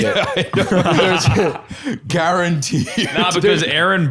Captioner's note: laughing